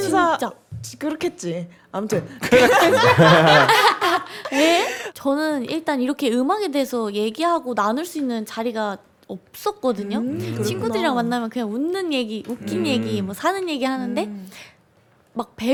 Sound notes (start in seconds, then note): 2.5 can't hold back laughter